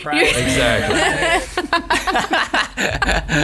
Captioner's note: laughs